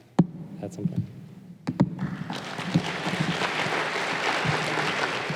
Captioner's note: applause